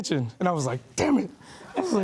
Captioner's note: laughing